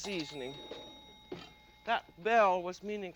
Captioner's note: bell dings